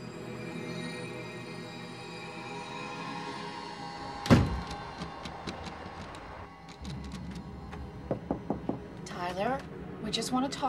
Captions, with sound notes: [door shuts] [knocking] Tyler, we just want to talk.